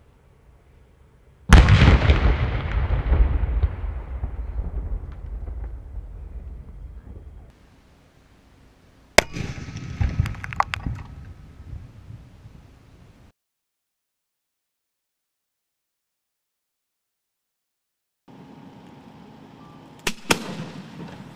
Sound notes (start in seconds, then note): 1.5 explosive boom; 9.2 small explosive boom; 19.1 small pop followed by small boom